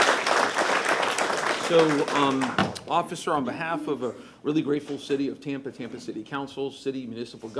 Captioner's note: applause